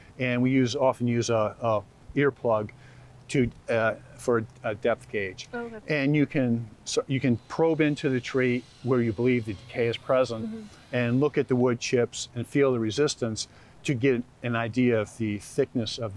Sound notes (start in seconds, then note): 8.2 drill whizzing